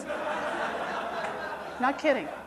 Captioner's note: audience laughing